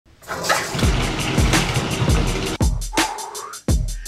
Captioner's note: water rushing; upbeat drumbeat music; exhales